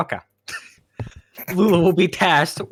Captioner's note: snickering, wheezing